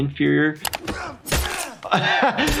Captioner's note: knife thudding